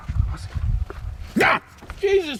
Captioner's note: yells